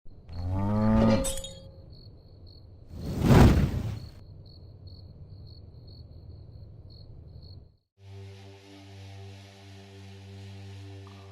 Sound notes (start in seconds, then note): 0.3 cow mooing; 3.0 air whooshing; 3.9 frogs croaking; 8.1 suspenseful music